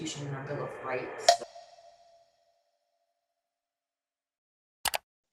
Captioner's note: timer snicks